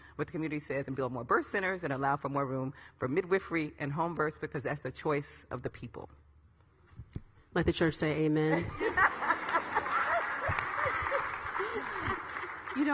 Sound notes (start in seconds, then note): 8.5 all ladies laughing; 10.6 audience clapping; 10.6 audience laughing